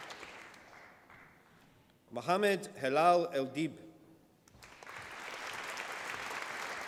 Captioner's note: applause